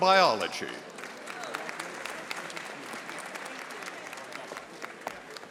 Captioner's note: audience applauding